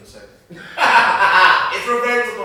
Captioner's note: laughing